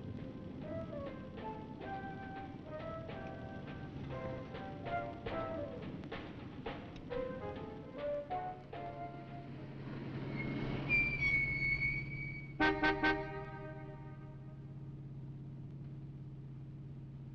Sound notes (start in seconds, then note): 1.0 upbeat music; 10.7 brakes squeaking; 12.4 horn honking